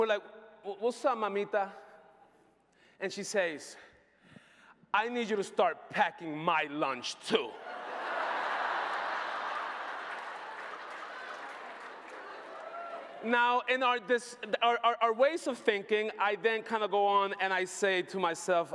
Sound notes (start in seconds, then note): 11.4 laughter